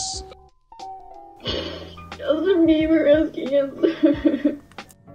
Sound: sobbing

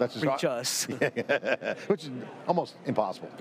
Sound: laughs

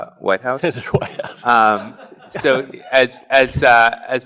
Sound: chuckles

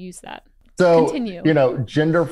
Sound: laughs

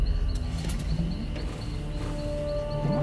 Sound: engine starting sound

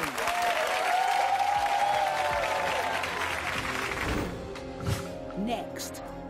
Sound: audience cheers and applause

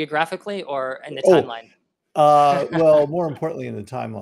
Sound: laughs

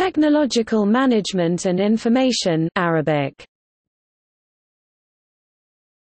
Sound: Arabic

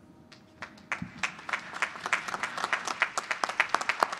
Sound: applause

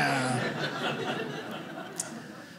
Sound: audience laughing

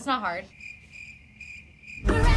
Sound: cricket sounds

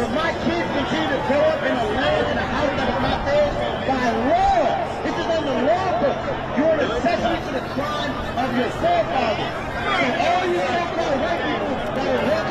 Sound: crowd noise

